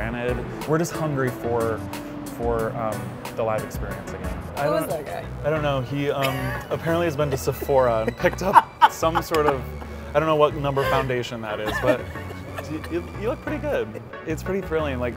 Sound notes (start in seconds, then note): 6.5 chuckles; 8.9 laughs